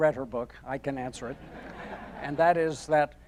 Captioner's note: audience laughing